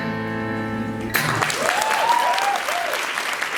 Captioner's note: applause